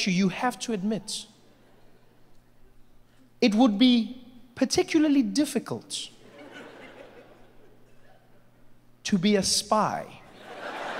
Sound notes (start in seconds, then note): 6.2 audience laughing